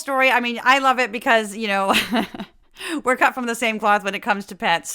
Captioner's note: laugh